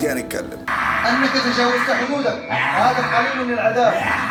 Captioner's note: Jinn grunts